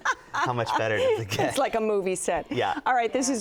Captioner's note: laughs